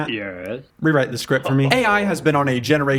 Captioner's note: laughs